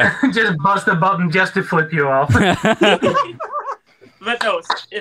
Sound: laughs; group laughter

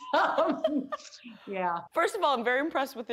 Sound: both laugh

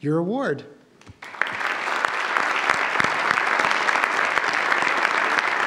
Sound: audience applauds

